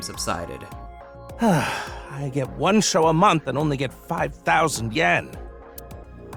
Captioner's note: sigh